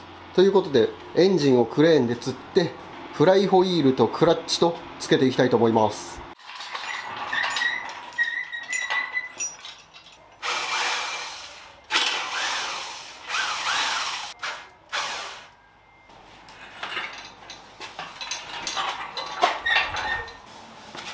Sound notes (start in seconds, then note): 6.7 working sound